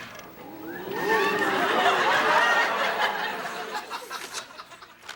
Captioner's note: audience gasps